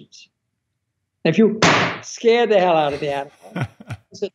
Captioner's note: loud thud